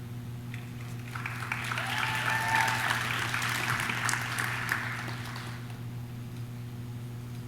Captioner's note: audience claps; audience cheers